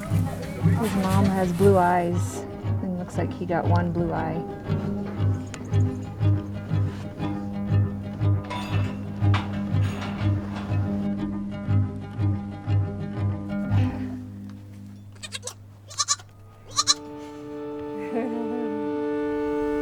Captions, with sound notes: His mom has blue eyes, he looks like he got one blue eye. [lamb bleating] [chuckles]